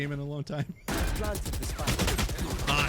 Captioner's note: laughs; gun shots